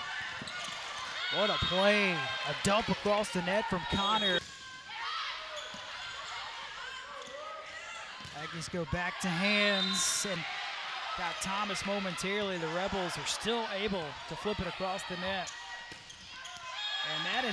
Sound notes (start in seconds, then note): 1.1 players yelling; 6.6 players yelling